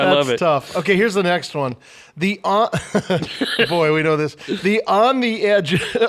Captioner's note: laughs